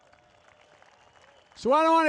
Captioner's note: applause